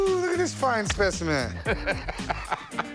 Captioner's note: laughs